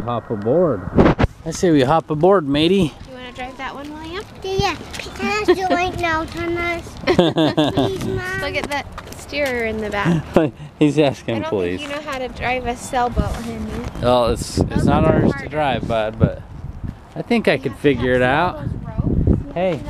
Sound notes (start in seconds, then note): 9.2 laughing